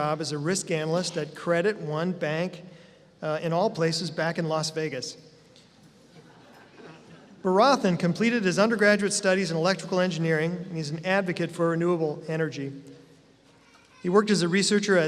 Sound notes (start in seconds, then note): 6.1 laughter